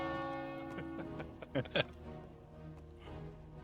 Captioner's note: laughs